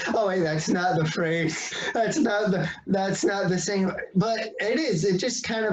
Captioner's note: laughs